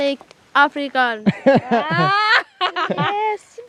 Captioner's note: laughing